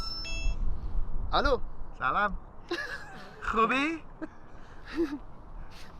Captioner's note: speaks in foreign language